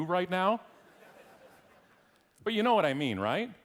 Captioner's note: audience laughing